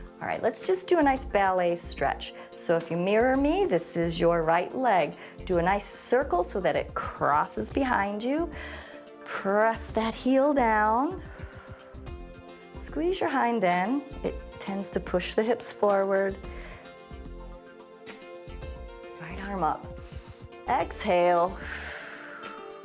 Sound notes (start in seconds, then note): 20.0 inhales; 21.5 exhales